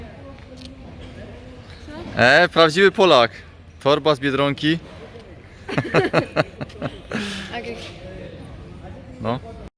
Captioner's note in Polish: śmiech